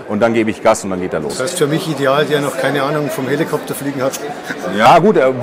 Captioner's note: laughter